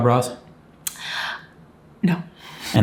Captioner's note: gasps